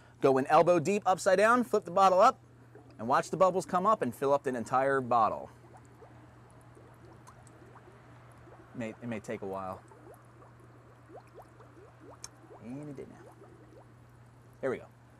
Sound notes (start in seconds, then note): 10.1 bubbling